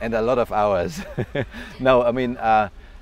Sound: chuckles

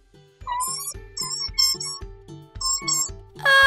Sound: squeak! Squeak!

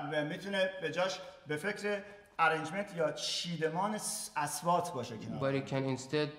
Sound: speaking in farsi

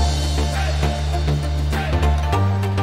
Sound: SFX: "Hey" chant and SAR - Perfect Dodge Roll start

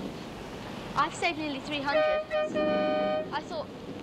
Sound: strident honking

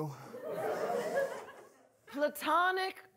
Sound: audience laughing

